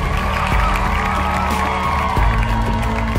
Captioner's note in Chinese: 掌声